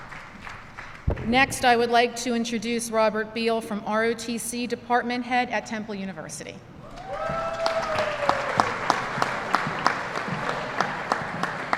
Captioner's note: applause